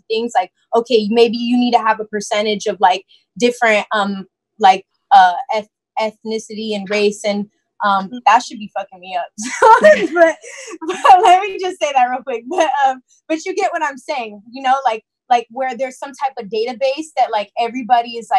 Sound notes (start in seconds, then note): 9.6 laughs